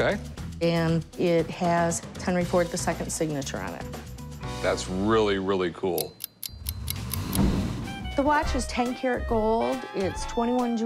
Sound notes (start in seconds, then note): 5.9 watch ticking